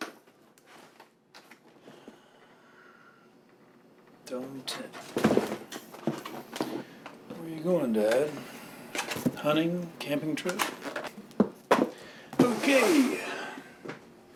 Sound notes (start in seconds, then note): 5.1 camp supplies rattling